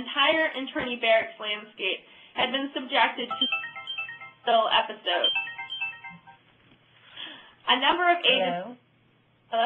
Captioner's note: phone ringing